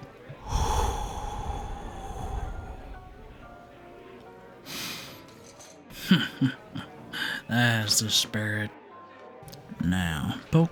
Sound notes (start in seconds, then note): 1.3 chuckles